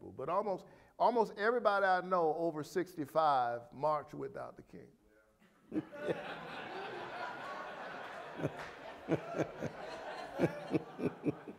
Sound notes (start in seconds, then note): 5.6 audience laughing